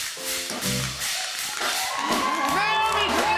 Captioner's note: cheers and applause